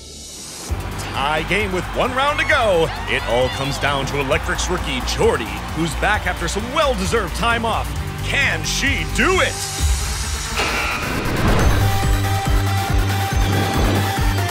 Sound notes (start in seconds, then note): 10.5 buzzer sounds; 11.0 upbeat music